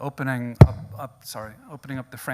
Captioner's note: microphone pops